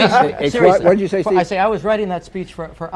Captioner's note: laughter